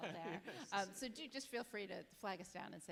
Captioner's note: chuckles